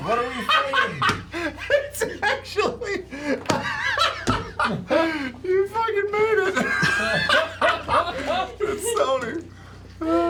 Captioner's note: laughs